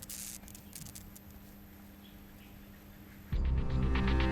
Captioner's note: leaves rustle; light buzzing; ominous music